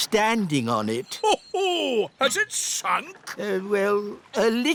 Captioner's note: laughs